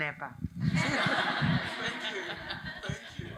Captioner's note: attendees laughing